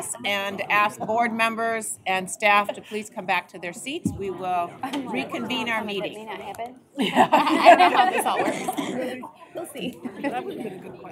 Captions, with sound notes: AND ASK BOARD MEMBERS AND STAFF TO PLEASE COME BACK TO THEIR SEATS. WE WILL RECONVENE OUR MEETING. [ LAUGHTER ] [ INDISTINCT CHATTER ]